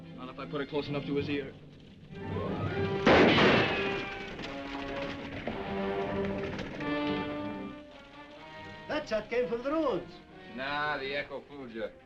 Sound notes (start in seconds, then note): 3.0 gun firing; 4.0 horse neighing; 5.0 dramatic music